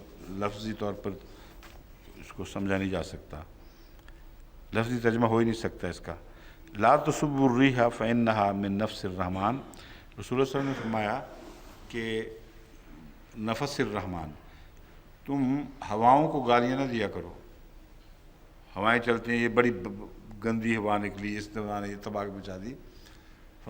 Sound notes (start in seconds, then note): 6.6 Arabic